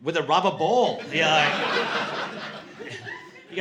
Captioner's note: laughter